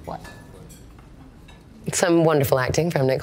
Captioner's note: patrons murmuring and china clinking